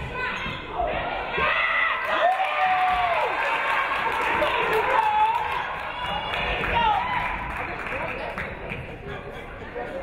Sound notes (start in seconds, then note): 1.8 audience cheering; 2.0 audience clapping